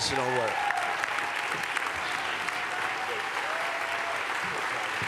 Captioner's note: cheers, applause